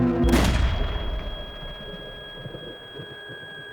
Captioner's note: gunshot rings